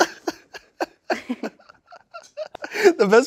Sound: laughing

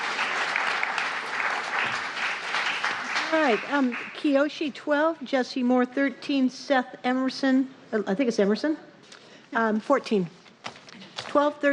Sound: applause

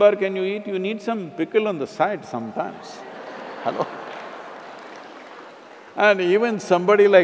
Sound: laughter

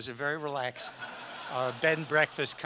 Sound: audience laughs

